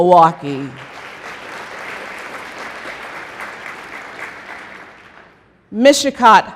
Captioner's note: applause